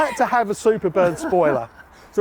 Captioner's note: laughing